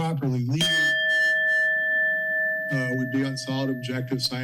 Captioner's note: bell rings